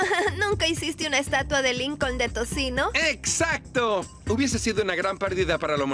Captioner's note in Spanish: riendo